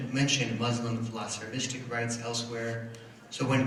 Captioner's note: foreign language